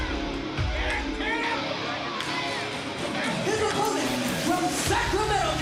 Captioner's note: crowd cheering